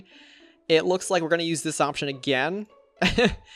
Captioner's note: laughs